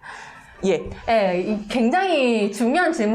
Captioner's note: laugh